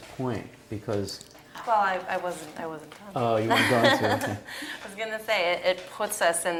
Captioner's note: laugh